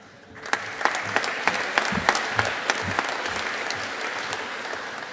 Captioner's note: audience applauding